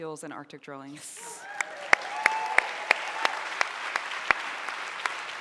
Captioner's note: audience applauding